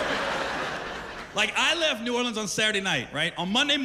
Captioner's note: laughter